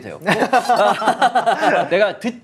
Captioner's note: just laughs